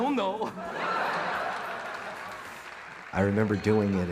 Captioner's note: audience laughing